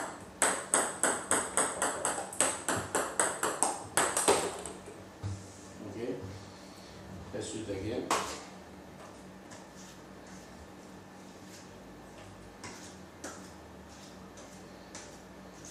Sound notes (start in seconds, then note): 2.1 balls ping pong hitting continues